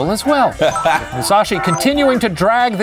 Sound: laughing

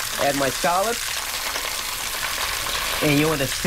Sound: sizzling

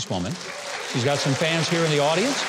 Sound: crowd cheers

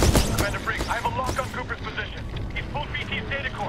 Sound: radio

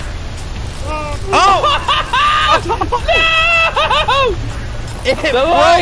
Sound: screaming

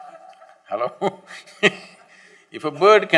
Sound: laughs; laughter

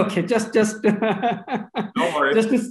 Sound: laughs

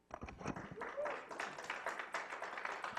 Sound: clapping

